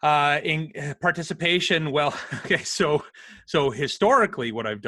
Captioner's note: laughs